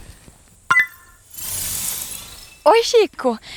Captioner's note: click